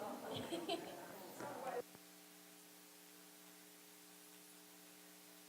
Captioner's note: audience chattering softly